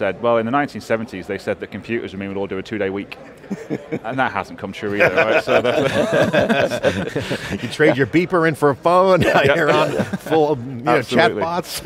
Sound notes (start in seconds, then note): 3.2 chuckles; 4.9 all laughing; 9.2 laughing